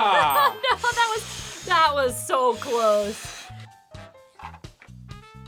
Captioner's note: sighs